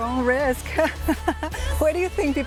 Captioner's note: laughs